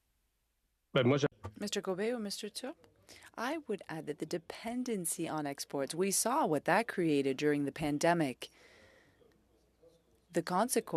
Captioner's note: speaking French